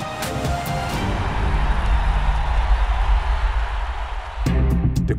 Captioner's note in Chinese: 歡呼聲與鼓掌聲